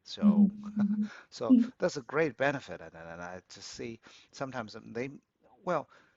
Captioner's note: laughs